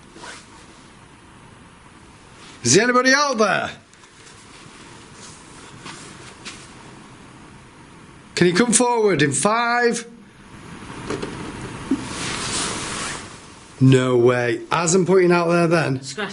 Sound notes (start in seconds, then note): 11.2 scratching